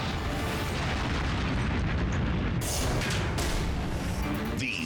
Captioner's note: explosion reverberates